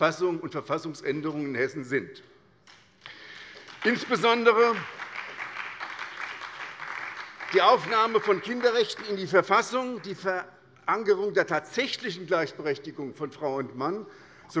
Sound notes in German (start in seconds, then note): 3.0 Beifall bei der SPD